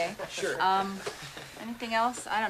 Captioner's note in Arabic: ضحكات